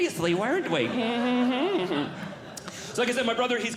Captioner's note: audience Laughing